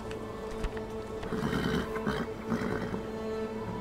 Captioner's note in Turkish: At kişneme sesi